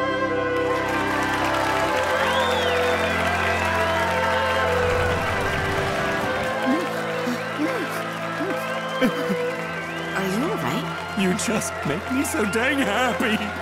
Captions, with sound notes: [applauding, whistling] [whimpering] Are you all right? You just make me so dang happy!